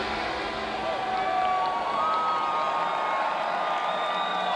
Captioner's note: crowd cheering